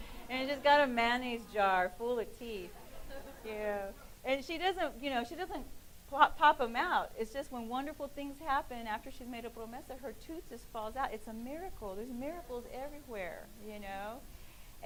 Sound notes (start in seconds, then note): 0.0 laughing; 9.5 speaking in foreign language